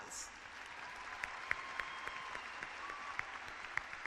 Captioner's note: clapping